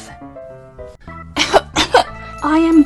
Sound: cough cough

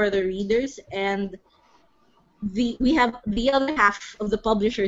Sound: none

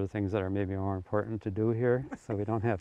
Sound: laughs; chuckling

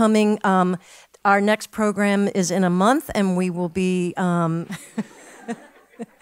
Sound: laugh

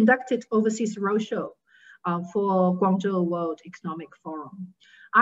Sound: speaking in foreign language

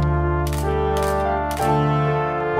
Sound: photos clicking

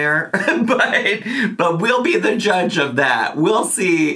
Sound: laughs

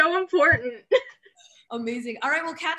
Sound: laughs

